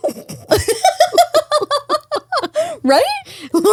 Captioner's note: all laugh